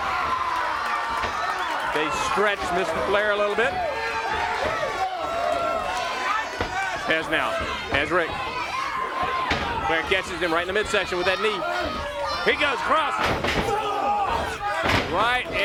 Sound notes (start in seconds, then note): 0.3 crowd cheering; 9.7 crowd cheering; 14.2 crowd chatter